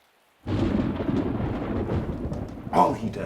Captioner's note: thunder cracking